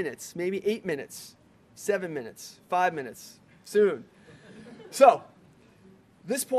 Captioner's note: laughter